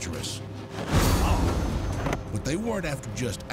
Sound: banging, groaning

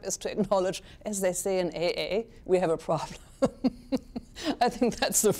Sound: chuckles

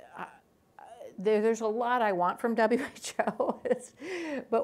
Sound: laughs

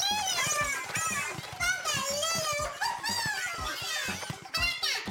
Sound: laughing

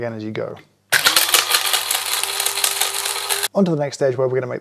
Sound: grinder spinning

